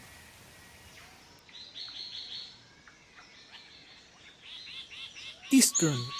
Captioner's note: birds calls